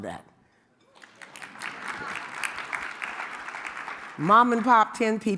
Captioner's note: audience clapping